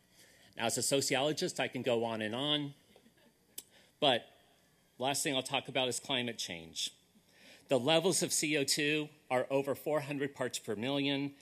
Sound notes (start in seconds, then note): none